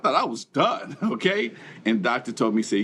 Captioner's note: chuckling